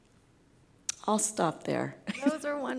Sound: laughs

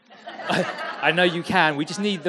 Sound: audience laughing

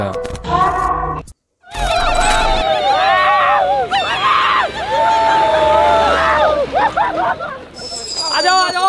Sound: shout with excitement

